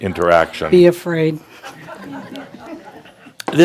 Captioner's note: some chuckles